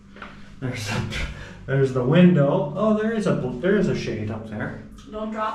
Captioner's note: laughs